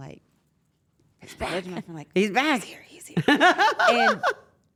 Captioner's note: laugh